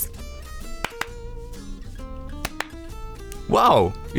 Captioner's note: clapping